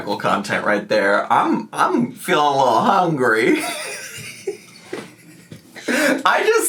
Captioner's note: laughing